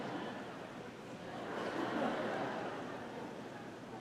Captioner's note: audience laughing